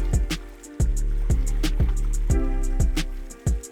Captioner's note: splashing